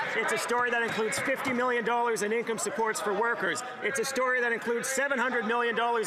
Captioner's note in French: voix de l'interprète